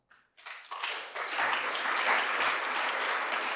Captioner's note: applause